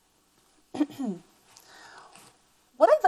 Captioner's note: teacher clears throat